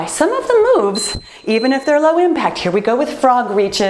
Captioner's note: timer beeps